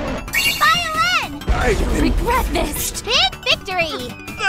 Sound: kaboom

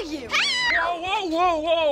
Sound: Jaime screams

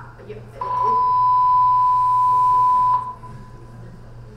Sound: alarm beeping loudly

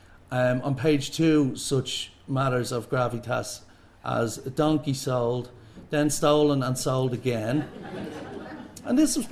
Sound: laughter

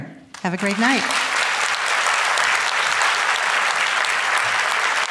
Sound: audience applauding

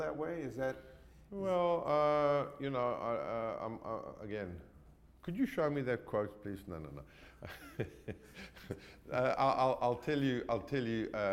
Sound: laughs

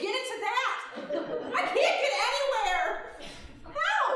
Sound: audience laughing

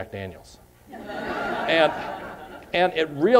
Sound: laughter

